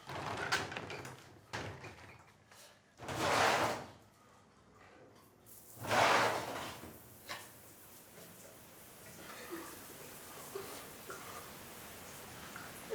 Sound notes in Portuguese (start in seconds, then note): 5.4 chuveiro ligado